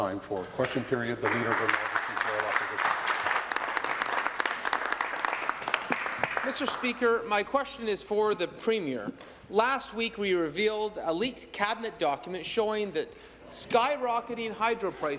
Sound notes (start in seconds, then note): 6.5 applause